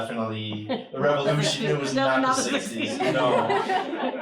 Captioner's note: laughter